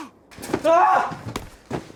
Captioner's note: screams